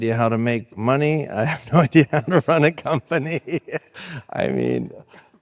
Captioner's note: laughs